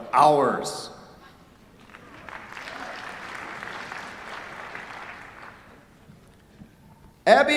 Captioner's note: applause